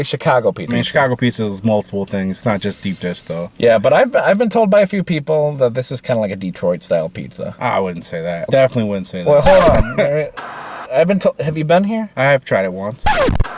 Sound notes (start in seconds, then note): 9.3 TV Static; 9.6 chuckles